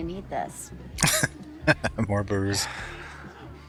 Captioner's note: laughing